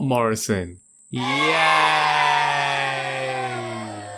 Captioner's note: booooo